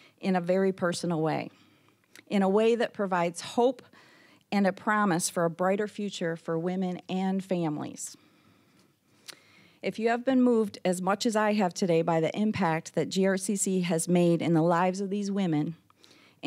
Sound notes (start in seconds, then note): none